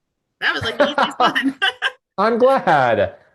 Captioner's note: laughing